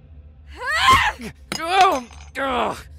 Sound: yells; cry of pain

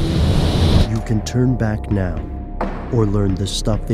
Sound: voiceover

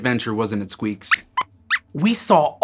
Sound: squeaks squeaks

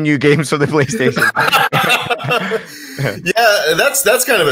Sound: laughs

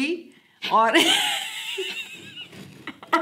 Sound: laughing

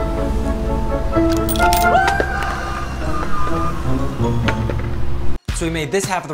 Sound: coins jingling; man screaming

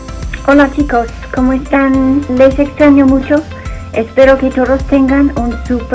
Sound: speaking in foreign language

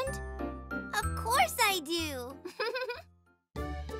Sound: chuckles

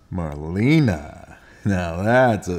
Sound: voiceover

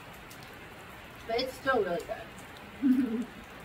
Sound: laughs

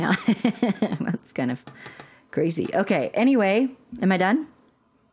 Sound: laughter

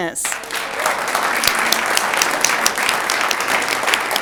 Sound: audience applauds

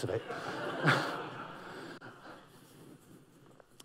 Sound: laughter

